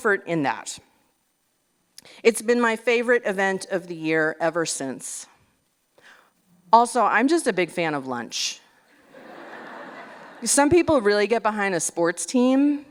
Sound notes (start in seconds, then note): 9.0 laughter